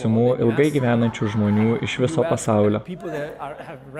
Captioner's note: laughter